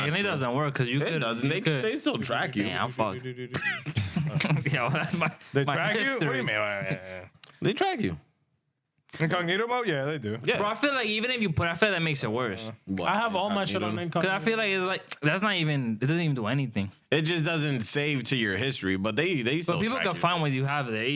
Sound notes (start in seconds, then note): 3.4 laughing